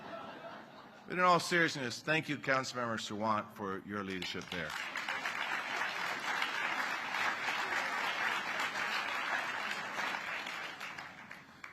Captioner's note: laughter